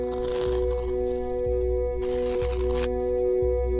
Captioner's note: static crackling